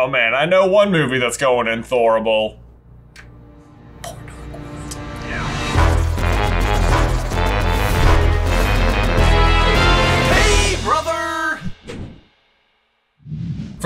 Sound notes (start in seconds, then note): 3.7 whispers; 7.1 theme music